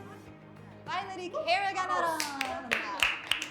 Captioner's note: speaks in Spanish language; students clapping